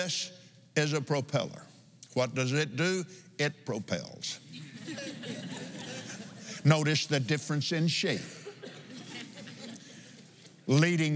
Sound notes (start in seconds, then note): 4.5 laughs